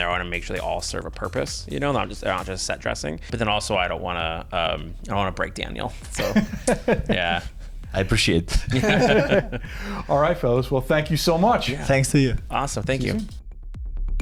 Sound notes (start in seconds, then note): 6.6 laughs; 8.5 everyone laughs